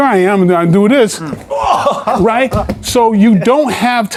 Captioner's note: chuckles